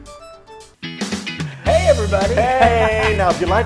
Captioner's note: laugh